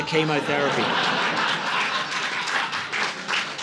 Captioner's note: audience laughing